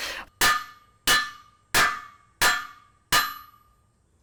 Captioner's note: hammer clanging